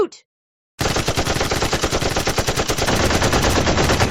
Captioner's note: rapid machine gun firing